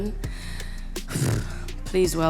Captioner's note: sighs